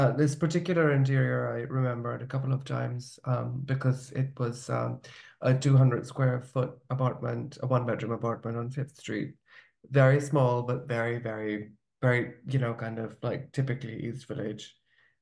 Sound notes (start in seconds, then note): none